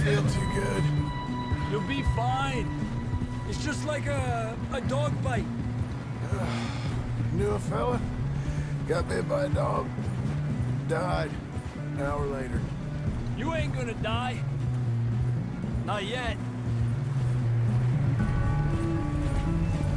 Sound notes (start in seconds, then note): 6.2 sighs